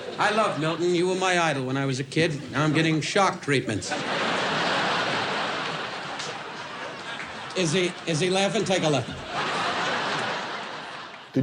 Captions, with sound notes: I love Milton. You were my idol when I was a kid. Now I'm getting shock treatments. [audience laughs] Is he, is he laughing? Take a look. [audience continues to laugh]